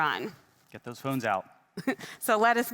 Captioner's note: chuckles